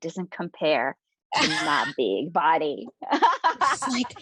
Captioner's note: laughing